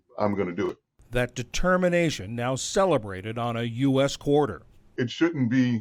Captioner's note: voice-over